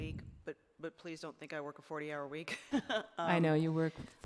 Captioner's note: laughs